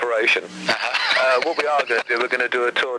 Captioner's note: host chuckles